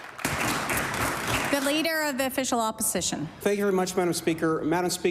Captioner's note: applause